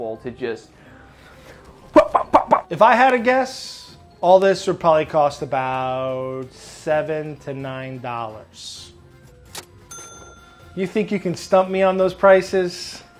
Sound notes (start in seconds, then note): 9.8 cash register dinging